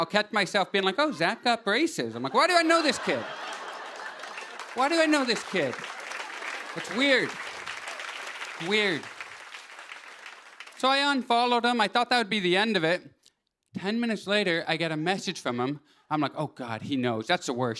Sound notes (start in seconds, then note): 2.1 laughter; 7.3 applause